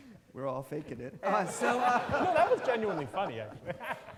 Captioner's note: all laughing